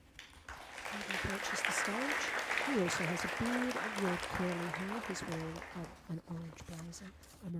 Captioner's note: applause